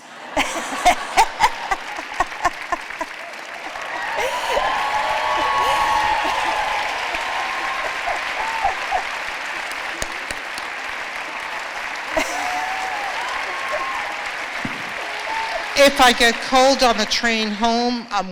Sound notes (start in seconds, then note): 0.2 laughter; 2.2 applause